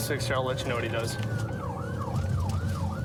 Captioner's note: siren blaring